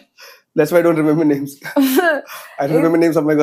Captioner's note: laughs